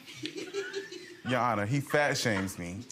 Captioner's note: audience members laughing